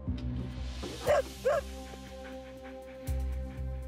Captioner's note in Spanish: ladridos